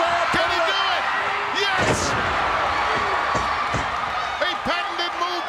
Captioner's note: audience cheers